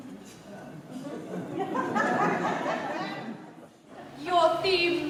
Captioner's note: laughter